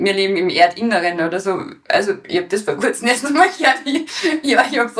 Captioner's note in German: Lachend